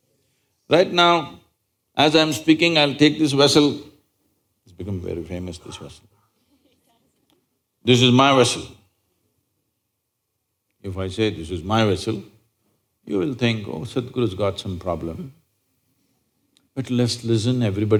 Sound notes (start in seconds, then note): 7.2 few Laugh